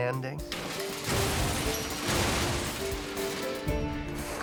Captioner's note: banging